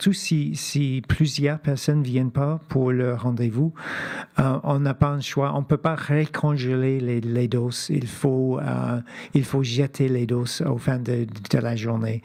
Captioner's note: speaking French